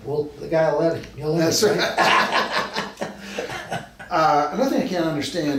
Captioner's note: both men laugh